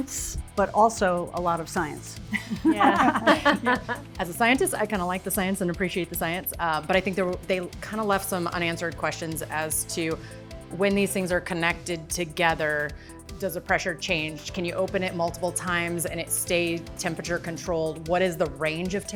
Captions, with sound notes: A lot of science but also a lot of science. -Yeah. -[group chuckles] As a scientist, I kinda like the science and appreciate the science, but I think they kind of left some unanswered questions as to, when these things are connected together, does the pressure change? Can you open it multiple times and it stays temperature controlled?